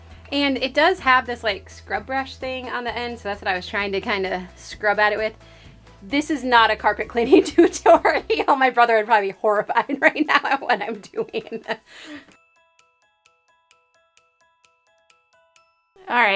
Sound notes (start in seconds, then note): 8.1 laughs; 11.2 whimsical keyboard music